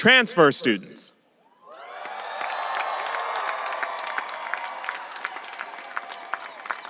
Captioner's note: audience applauding and cheering